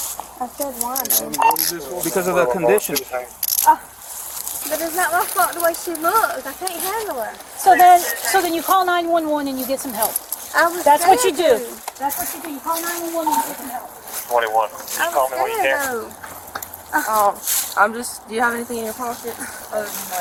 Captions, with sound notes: I said why, though Because of the conditions But it's not my fault the way she looks I can't handle her So then you... so then you call 9-1-1 and you get some help - I was scared, though - That's what you do That's what you do You call 9-1-1 and you get some help (Radio chatter) I was scared, though Oh, I'm just... do you have anything in your pockets?